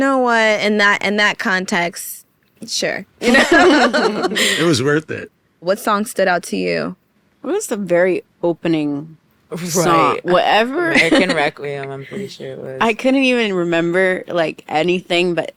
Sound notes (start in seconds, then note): 3.2 laughing